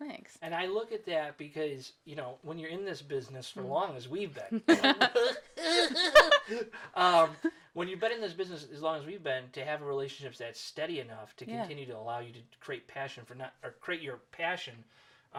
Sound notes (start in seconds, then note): 4.6 laughing; 5.1 grunting